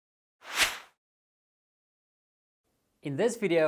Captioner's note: whooshing sound effect